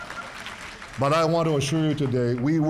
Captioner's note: audience clapping